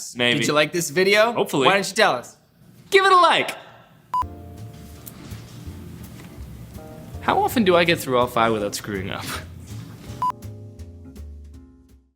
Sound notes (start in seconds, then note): 4.1 beeping; 4.2 soft music; 10.2 beeping